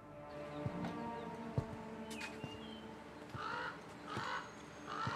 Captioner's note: peaceful Outside Noises